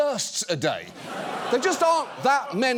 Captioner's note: studio audience laughs